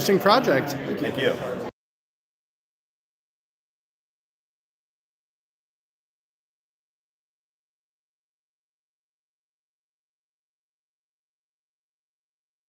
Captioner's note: no audio